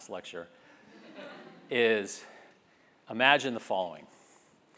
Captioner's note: laugh